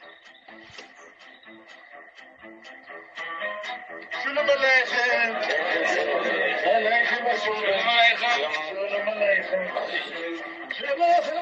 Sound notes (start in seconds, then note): 0.1 bouncy music; 4.3 speaking in a foreign language